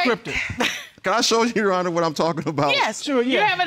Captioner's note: chuckles